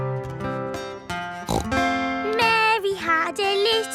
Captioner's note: playing guitar; snorts